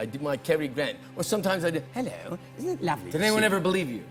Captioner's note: British accent